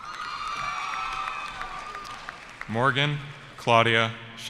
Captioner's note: cheering